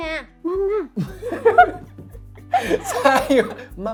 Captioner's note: laugh